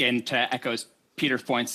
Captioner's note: speaking French